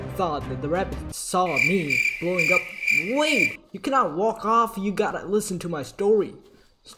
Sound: crickets' sounds

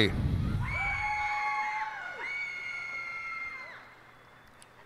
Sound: cheers and applause

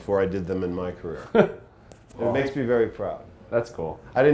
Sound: laughs

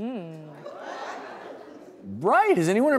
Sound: audience laughing

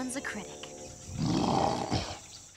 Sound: grunting

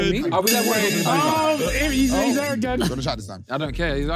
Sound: phone ringing

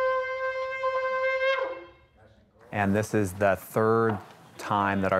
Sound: shofar trumpeting

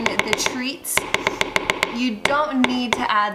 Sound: tapping spoon

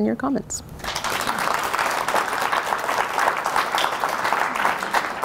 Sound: audience applauding

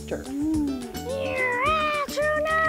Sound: imitates airplane

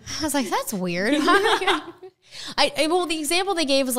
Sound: laughing

